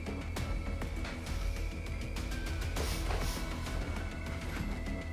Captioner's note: tense dramatic music; Kira sniffing; tense dramatic music